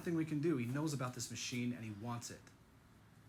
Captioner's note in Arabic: none